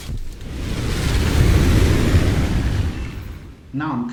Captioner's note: aircraft Engines ,Gunfire, Flying Sounds